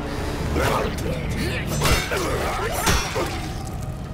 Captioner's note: zombie growling